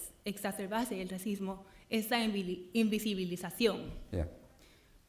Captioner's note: speaking in Spanish